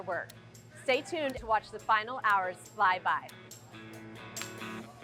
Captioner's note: hands clapping